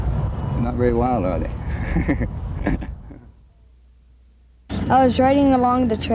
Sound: laughs

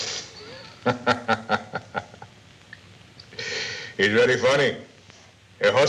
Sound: laughs

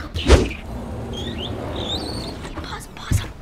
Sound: door squeaking

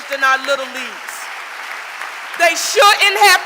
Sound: audience applauding

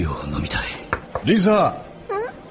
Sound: Jack knocks on table

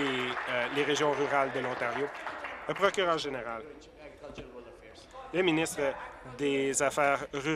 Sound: applause

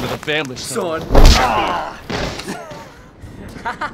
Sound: punch lands; laughs

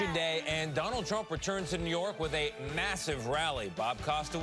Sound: cheers and applause

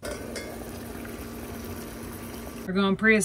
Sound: water bubbling

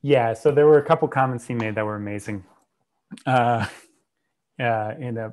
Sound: laughs

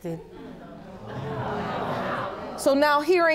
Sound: audience exclaims

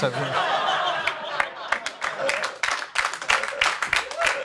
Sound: audience laughs and applauds

